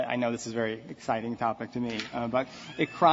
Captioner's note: laughter